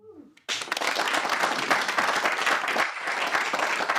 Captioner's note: audience applauding